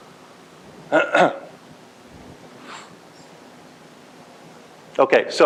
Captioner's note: coughs